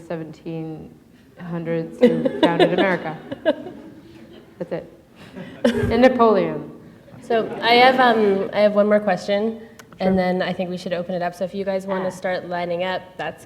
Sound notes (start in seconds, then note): 7.1 laughter